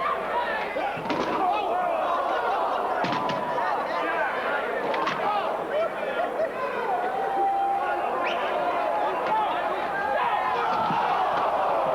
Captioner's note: crowd cheering